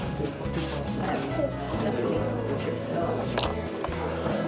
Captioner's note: crew chattering